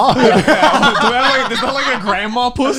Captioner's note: laughing